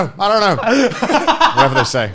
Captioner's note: laughing